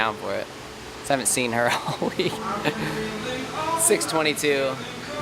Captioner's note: laughs